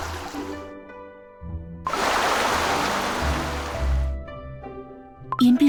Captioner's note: gurgle gurgle…; gurgle gurgle gurgle…